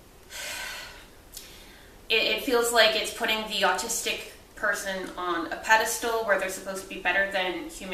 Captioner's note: sighs